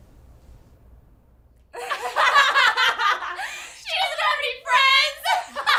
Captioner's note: laughter